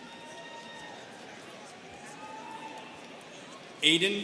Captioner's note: students cheering